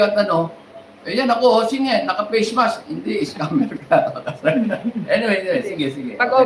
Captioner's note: laughter